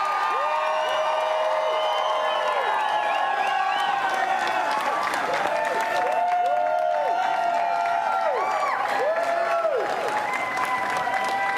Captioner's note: applause and cheering